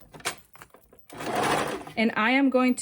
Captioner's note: serger clattering